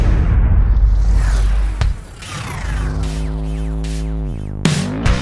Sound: synthesized boom; electronic whoosh; upbeat pop music

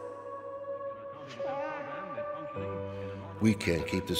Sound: faint radio chattering

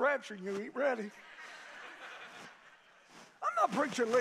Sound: congregation laughing

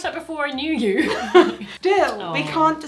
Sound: both laugh

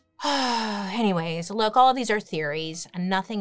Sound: sighs

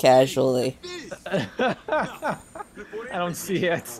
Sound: laughs

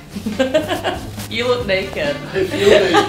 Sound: laughs

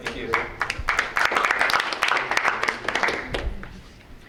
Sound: applause

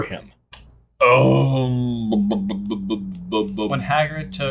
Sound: groaning in thought

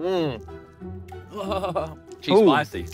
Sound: goofy music; shuddering

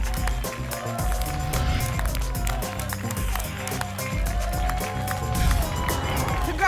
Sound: applause and cheering

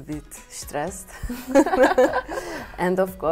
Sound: laughs

